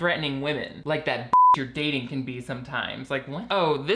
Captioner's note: beeps